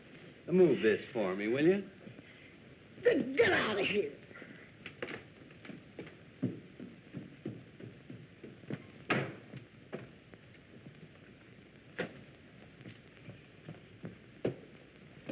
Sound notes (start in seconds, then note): none